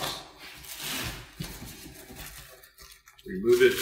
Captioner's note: plastic crinkling